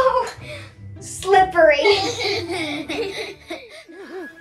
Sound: all laughing; whimsical, mysterious music

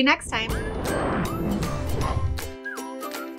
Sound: frame whooshes; upbeat music

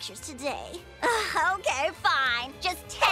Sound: sighs

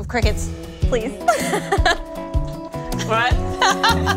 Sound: laughs; laughs

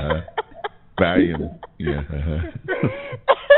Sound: laughter

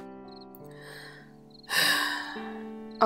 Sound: sigh

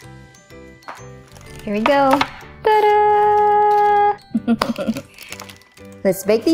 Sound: chuckling

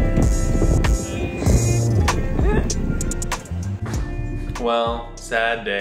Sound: upbeat music playing; giggling

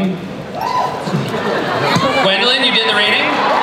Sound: laughter

